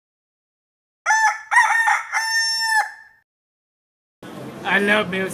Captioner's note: rooster Crowing